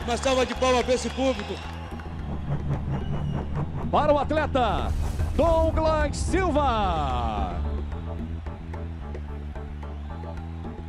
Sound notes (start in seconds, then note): 3.2 announcer speaking Portuguese; 7.7 electronic music